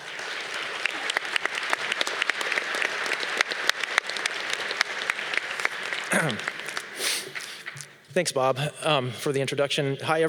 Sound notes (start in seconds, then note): 0.0 audience clapping; 6.1 clears voice